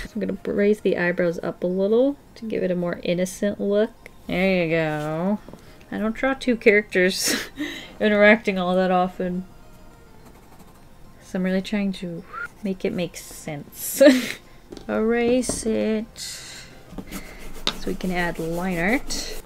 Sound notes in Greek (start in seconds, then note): 13.8 Γέλια